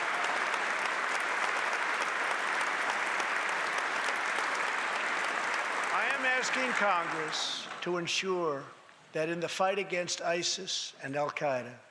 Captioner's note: applause